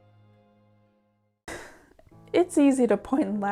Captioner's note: sigh